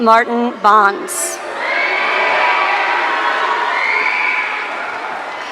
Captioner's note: audience cheering